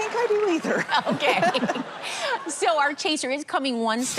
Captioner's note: laughter